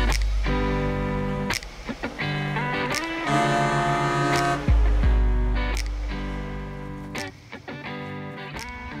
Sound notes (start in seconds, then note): 2.6 boat horn blaring; 5.7 soft guitar music